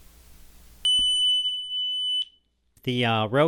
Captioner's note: tone generator beeping